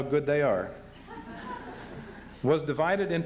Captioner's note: laughter